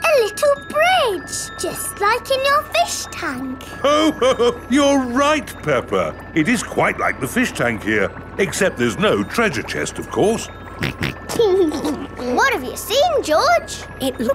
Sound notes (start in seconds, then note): 3.8 laughs; 10.8 snorts and laughs